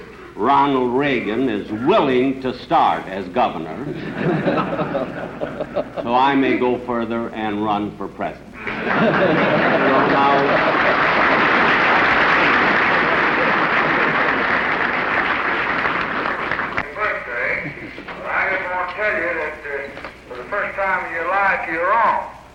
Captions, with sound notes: Ronald Reagan is willing to start as governor. [laughter] So I may go further and run for president. [applause and laughter] [President Lyndon Johnson's voice over phone]: ...birthday. But I didn't want to tell you that for the first time in your life, you're wrong.